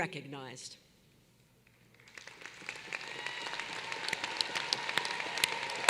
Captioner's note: applause